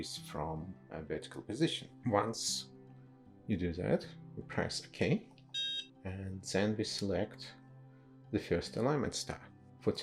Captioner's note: DSC emits short beep